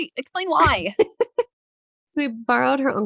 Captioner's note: laughing